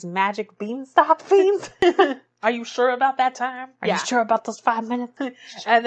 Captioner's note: laughs